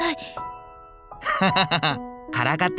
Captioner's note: laugh